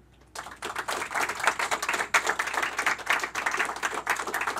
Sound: applause

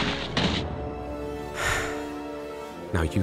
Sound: sighs

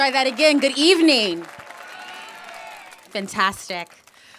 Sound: applause

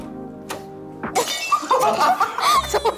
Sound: cracking up

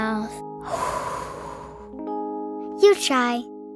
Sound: all exhaling

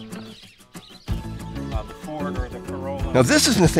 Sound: gentle upbeat music; men chatting

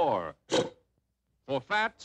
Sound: snort

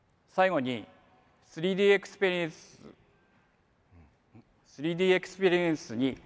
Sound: speaks in foreign language

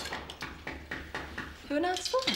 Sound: knocking on door

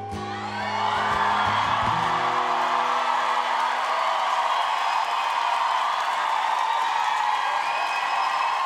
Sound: applause

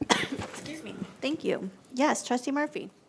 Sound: coughs

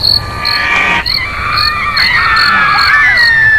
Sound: screaming

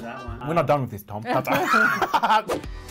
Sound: laughs

